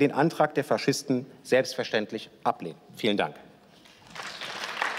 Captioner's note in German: Beifall